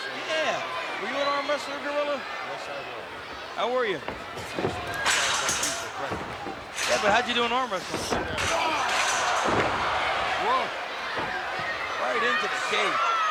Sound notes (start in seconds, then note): 8.8 cage rattling; 9.7 body thuds